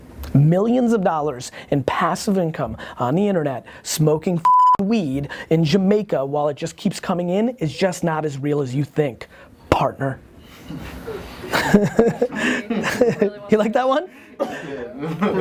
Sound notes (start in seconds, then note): 4.4 beep; 11.0 laughing